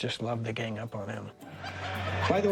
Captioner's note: laughter